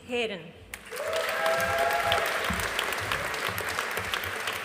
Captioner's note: audience applauding